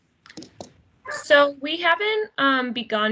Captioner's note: dog barks